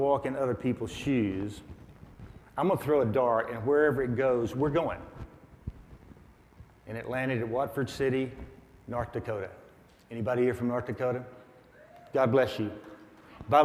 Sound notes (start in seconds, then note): 11.8 audience members cheer